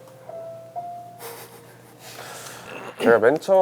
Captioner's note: laughing